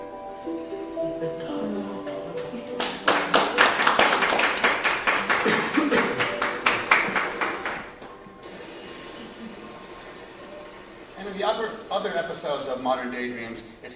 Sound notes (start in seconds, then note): 2.3 applause